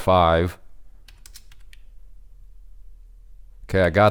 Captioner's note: keyboard clicking